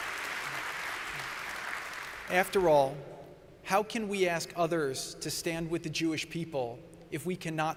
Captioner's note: applause